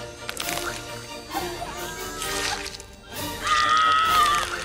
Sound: groaning; squishing; screaming

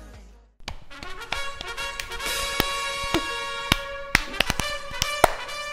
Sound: clap clap clap clap; clapclapclapclap

